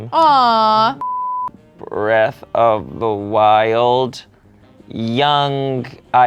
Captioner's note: beep